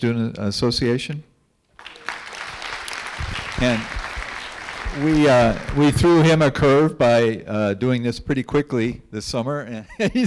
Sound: clapping

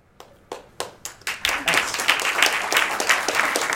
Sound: audience applause

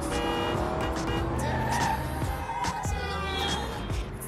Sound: horn honking; horn blaring; tires screeching

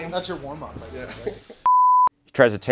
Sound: test tone

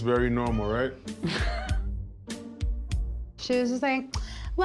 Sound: laughs

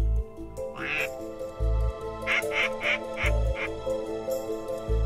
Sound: duck calls

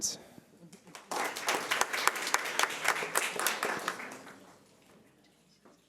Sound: audience applauding

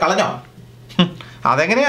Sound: scoffs

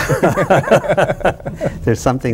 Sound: chuckles

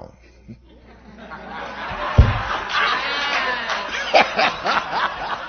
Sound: laughter

